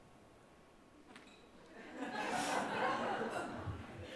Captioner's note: laughter